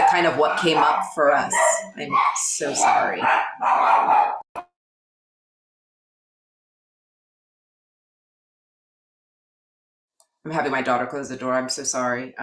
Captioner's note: dogs barking